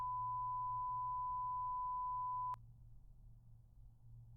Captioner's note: tone beeping